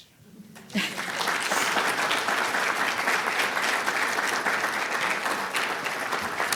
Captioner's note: audience applauding; chuckling